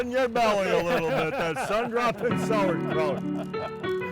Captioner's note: laughing; upbeat keyboard music